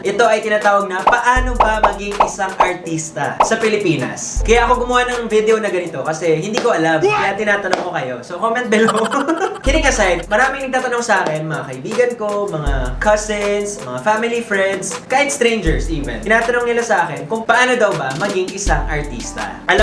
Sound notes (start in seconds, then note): 8.7 laughs